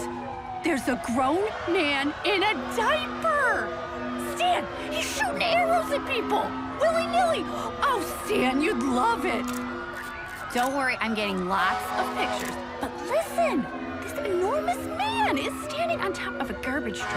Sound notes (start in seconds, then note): 9.4 camera clicking; 11.4 horn honking